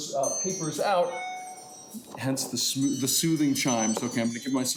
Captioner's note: device chiming